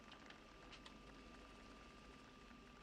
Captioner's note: none